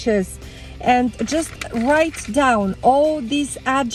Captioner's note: paper crunching